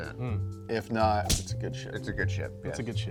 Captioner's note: punch thuds